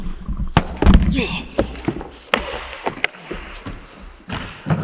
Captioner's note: Jacob grunting; body thudding; Jacob groans